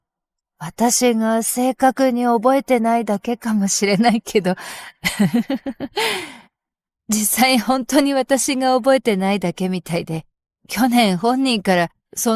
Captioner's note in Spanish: risas